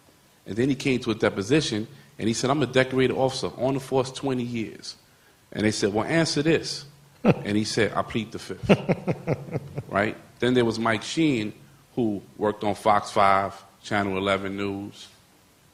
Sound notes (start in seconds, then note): 8.6 laughter